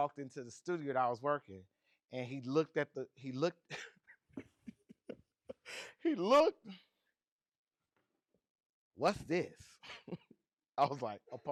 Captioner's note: laughs